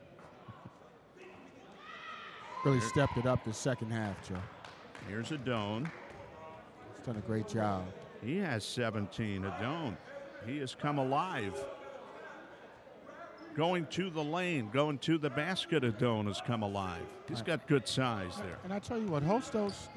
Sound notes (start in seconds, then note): 1.2 yelling